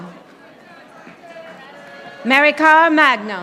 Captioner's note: audience applauding